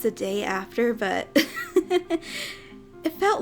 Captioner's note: giggles